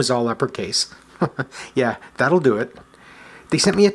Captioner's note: chuckles